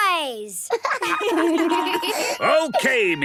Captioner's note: laughter